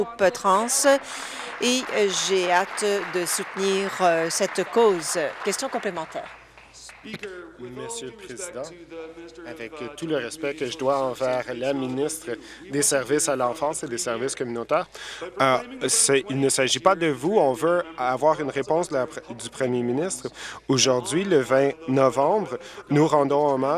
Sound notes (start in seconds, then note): 6.5 applause